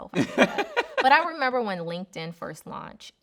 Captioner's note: laughing